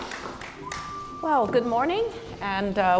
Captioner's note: applause